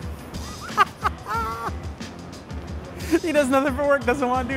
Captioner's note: laughing